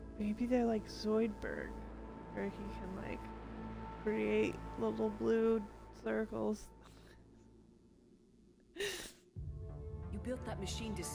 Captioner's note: laughter